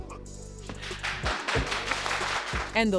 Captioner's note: applause